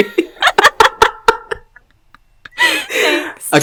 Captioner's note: both laugh